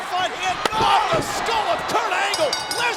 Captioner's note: chair thuds